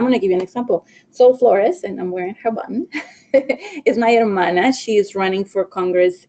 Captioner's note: laughing